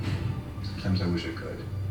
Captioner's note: none